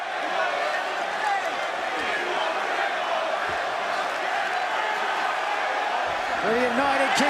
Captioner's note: crowd chatter